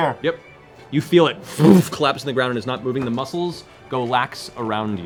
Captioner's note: impact